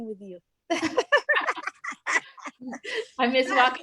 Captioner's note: laughs